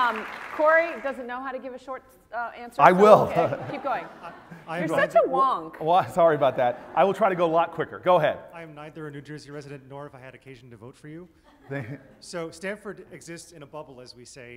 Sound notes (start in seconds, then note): 0.0 applause; 11.5 laugh